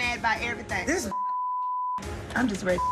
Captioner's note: beep